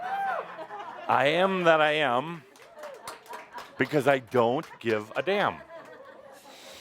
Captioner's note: laughter as he finishes writing